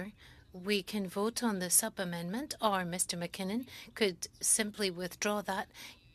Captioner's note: speaking French